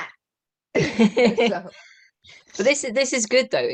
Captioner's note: laughter